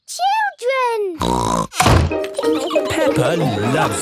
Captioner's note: snorts